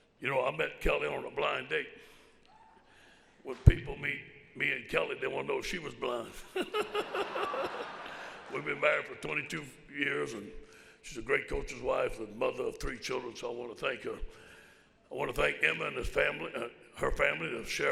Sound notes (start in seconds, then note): 6.5 laughs